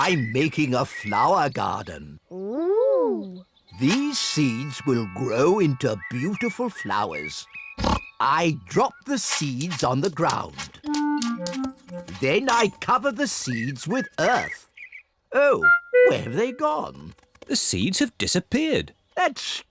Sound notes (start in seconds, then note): 7.7 oinks